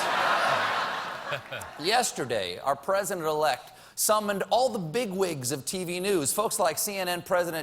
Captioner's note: laughter